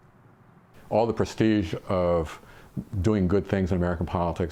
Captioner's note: voiceover